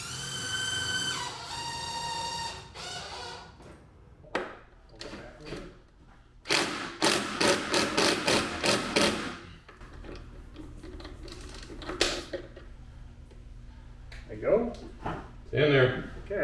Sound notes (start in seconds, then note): 0.0 tool drilling; 7.1 power screwdriver